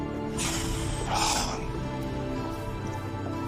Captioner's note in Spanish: Soplido